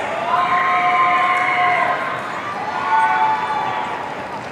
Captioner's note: audience cheering